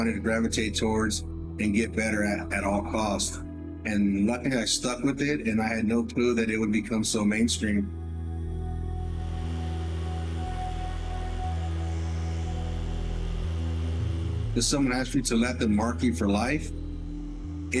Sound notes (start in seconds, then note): 9.7 air hissing